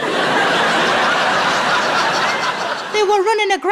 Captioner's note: laughing